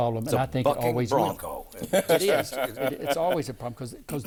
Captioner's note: laughing